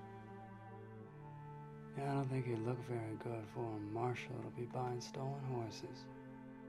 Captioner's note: none